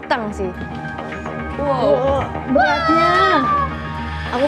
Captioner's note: crowd